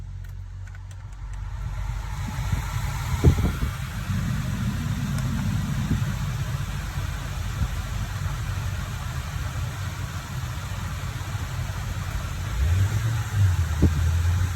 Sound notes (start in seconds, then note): 3.6 blower Fan